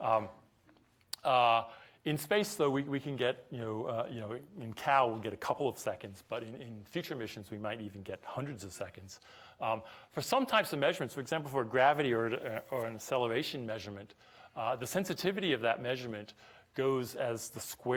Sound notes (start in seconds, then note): none